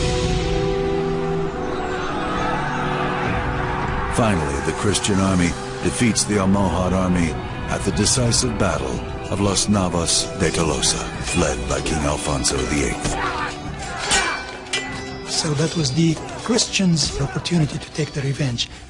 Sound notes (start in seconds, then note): 1.9 shouting